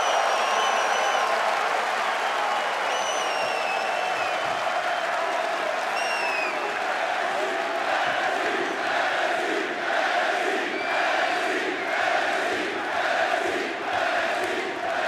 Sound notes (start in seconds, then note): 0.0 crowd chanting; 4.5 crowd cheering